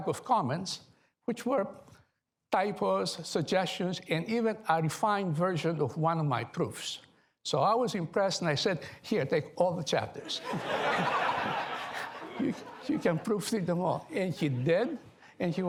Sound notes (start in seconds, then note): 10.2 laughter